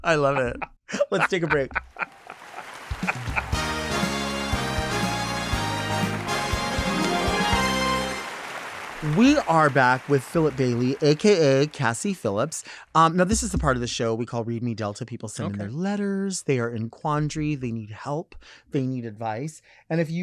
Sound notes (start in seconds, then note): 0.1 laughing; 2.3 audience applauding; 3.4 bright dramatic music